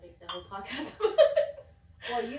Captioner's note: laughter